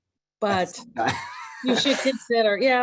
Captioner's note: laughs